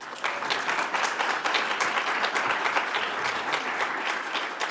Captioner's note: audience applauds